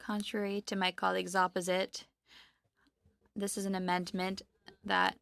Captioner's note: speaking French